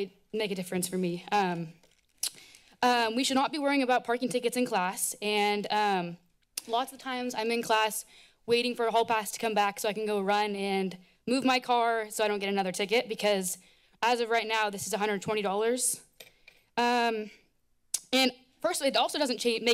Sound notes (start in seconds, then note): none